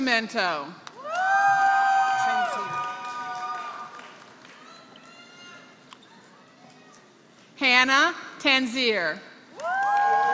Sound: applause; applause

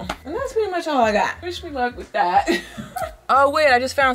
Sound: chuckles

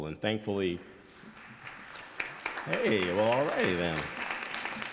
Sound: audience applauds

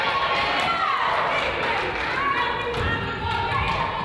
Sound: crowd applauds

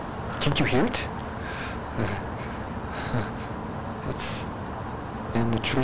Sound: heavy breathing

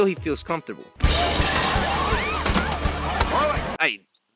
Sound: people shouting

